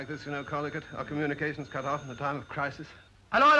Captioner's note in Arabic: يرن الهاتف